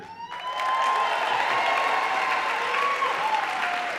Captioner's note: audience applauding